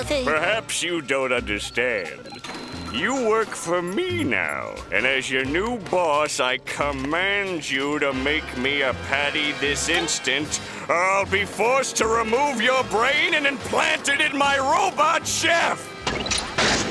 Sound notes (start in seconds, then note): none